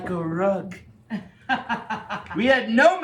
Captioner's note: laughing